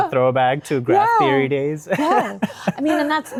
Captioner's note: chuckles